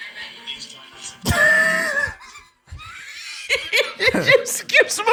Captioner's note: laughter